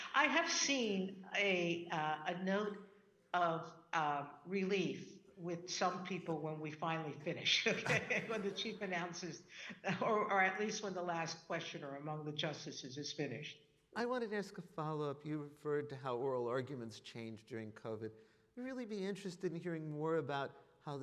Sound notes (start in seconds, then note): 7.7 audience laughing